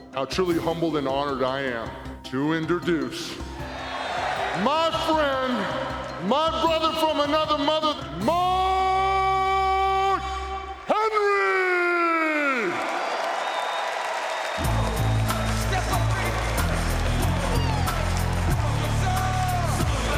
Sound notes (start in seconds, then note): 13.2 audience cheering; 14.6 funky hip-hop music; 15.0 audience clapping